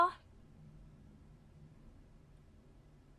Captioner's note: a beat